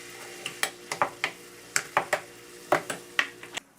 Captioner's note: stirring